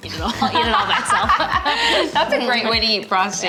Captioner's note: both laugh